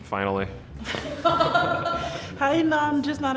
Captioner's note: laughing